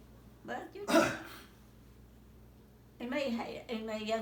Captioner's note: coughing